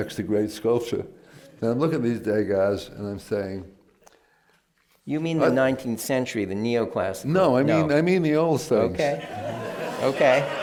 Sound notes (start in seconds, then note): 9.0 laughter